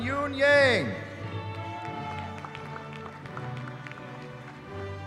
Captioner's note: cheering